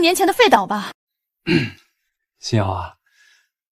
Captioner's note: cough cough